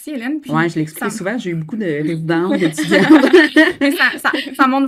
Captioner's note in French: rires